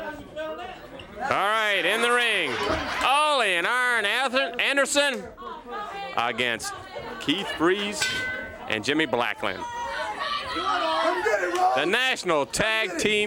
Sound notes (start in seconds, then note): 2.7 crowd chatter; 8.0 bell ringing; 12.1 crowd chatter